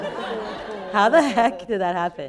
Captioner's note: people laughing